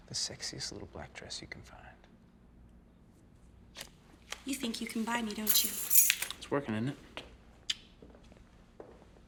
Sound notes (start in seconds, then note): 5.4 keys jangling